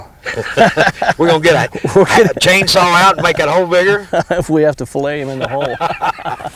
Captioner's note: laughter